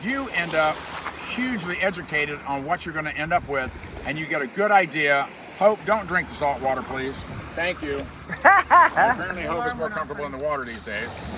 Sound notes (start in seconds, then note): 8.2 laugh